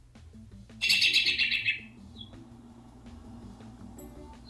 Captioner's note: robin chirping